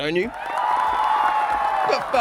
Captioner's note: crowed cheering